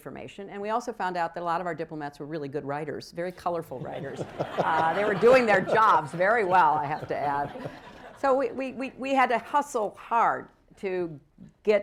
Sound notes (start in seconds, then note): 3.8 laughter